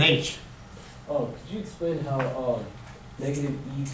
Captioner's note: voiceover